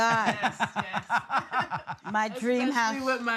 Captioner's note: all laughing